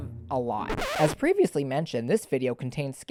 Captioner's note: record Scratch